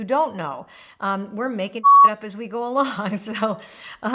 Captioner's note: beep